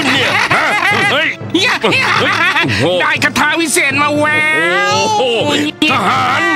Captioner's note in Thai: หัวเราะ